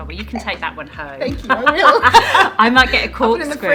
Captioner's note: laughing